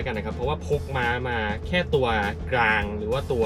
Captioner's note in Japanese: エンジン